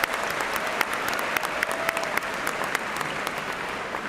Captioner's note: cheers and applause